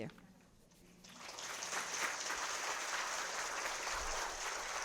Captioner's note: audience applauding